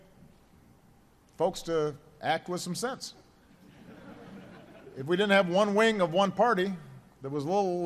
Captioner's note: laughter